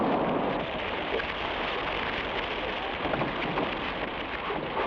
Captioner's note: flames crackle